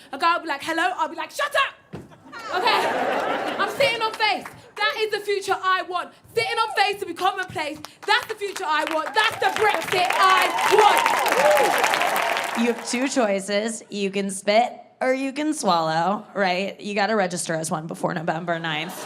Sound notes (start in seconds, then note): 11.6 audience applauding